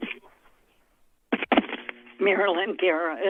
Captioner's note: rustles